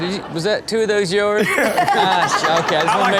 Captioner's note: laughing